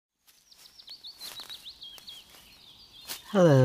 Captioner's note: morning ambience, footsteps